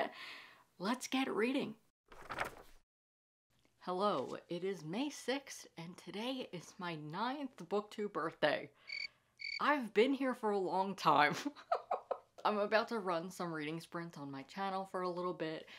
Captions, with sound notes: Let's get reading! [Scrapbook open and turning pages] Hello. It is May 6th, and today is my ninth Booktube birthday. [Crickets] I've been here for a long time. [Laughs] I'm about to run some reading sprints on my channel for a little bit,